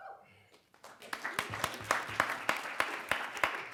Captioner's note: applause